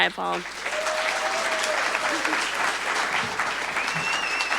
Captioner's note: audience applauding